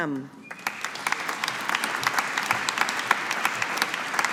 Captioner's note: audience applauding